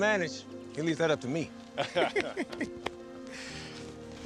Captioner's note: laughs